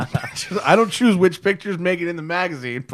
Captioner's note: laughter